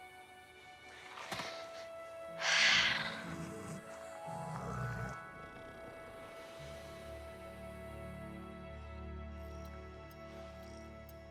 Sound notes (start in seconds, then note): 2.4 Sage growling; 3.2 soft thoughtful music